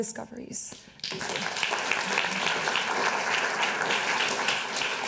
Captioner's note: clapping